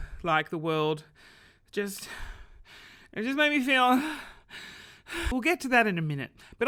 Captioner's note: gasps for air